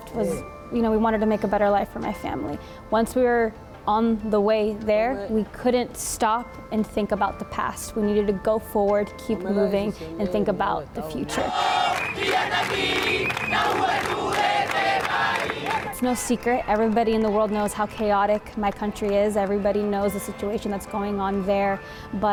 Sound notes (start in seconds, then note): 12.0 chanting in foreign language